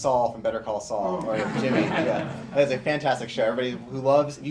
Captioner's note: laughter